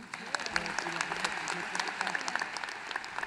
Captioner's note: applause